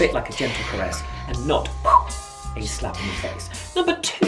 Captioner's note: blowing